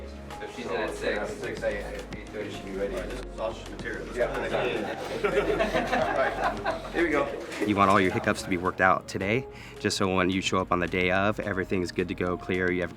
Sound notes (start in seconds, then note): 4.2 laughing